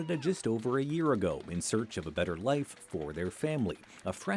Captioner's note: cheers and Applause